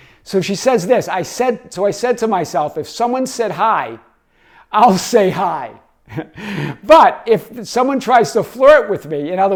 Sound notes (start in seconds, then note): 6.0 chuckles